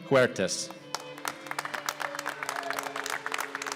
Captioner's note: applause